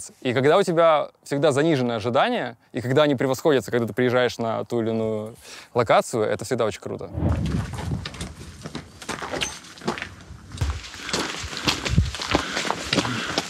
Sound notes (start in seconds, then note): 7.3 loud, cracky footsteps; 10.6 footsteps, heavy breathing